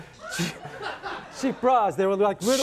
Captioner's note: laughs